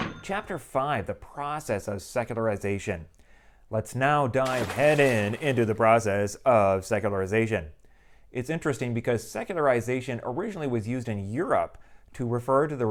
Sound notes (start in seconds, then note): 4.4 splashing sound